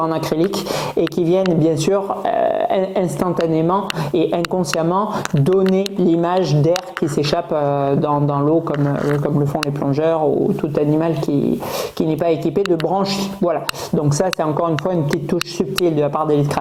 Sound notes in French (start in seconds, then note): 8.8 grognement